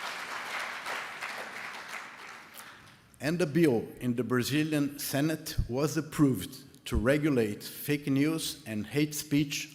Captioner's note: applause